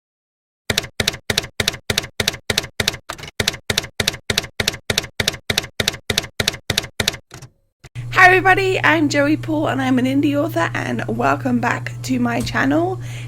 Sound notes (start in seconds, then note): 0.7 typewriter keys clacking